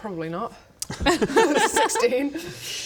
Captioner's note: nice try laugh